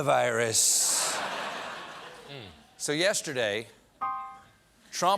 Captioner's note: laughter